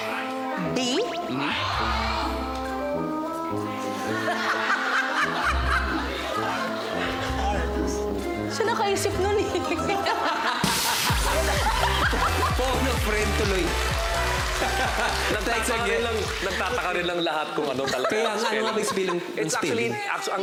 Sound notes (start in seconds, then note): 3.7 laughs; 9.5 laughter; 12.6 robi giggles